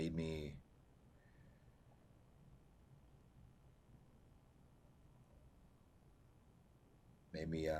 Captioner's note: pauses 6 seconds